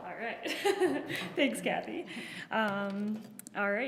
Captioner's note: laughs